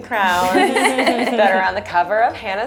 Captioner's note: laughing